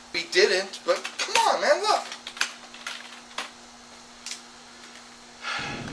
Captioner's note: furious typing